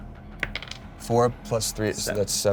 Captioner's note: die rolls